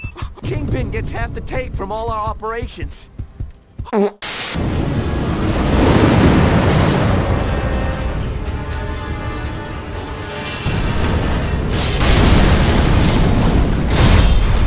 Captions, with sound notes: - Kingpin gets half the take from all our operations. (farts) (static) (fire blasts)